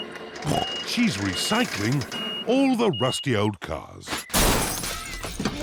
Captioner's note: snorts